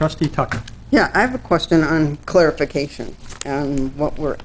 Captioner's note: none